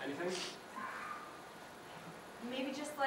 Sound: crows caw

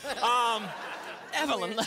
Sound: laughter

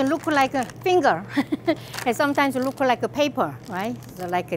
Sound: laughs

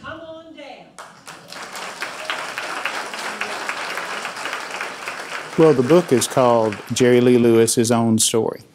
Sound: applause

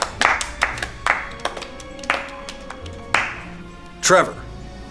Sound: clapping

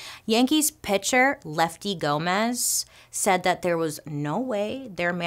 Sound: none

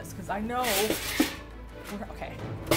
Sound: pan clanks

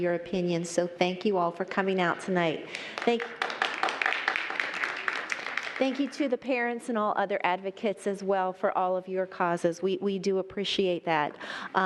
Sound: applause

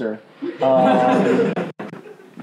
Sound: laughing

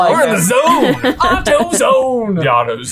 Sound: laughing

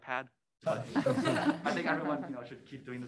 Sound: attendees laughing

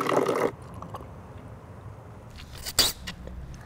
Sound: slurping

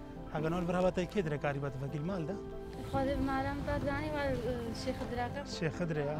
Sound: people speaking in foreign language

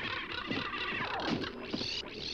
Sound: birds crashing; hummingbird twitters

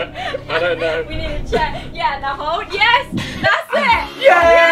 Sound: laughs

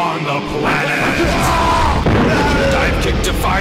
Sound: screaming

